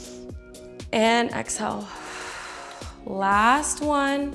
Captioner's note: exhales